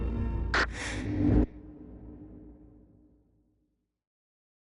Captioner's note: quick inhale of oxygen